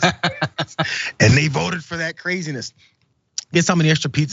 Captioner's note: laugh